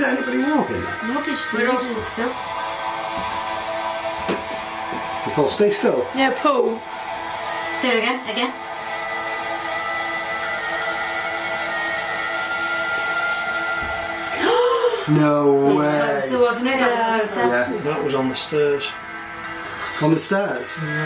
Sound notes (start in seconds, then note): 14.0 light thumping; 14.3 gasping